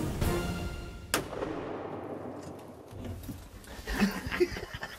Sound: shot firing; laughing excitedly

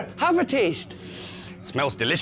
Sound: sniff!

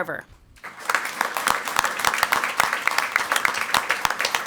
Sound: crowd clapping

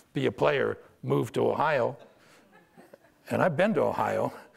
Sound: audience laughter

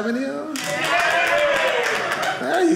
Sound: audience cheering

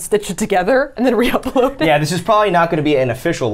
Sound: laughs

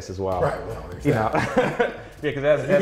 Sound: laughs

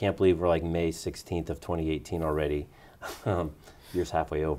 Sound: laughs

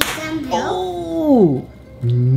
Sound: popping

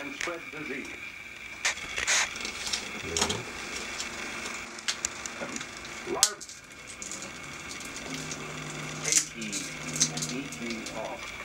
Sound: sound of film projector

